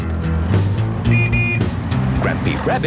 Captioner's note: honking